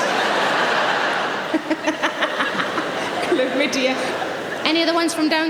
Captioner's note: laughs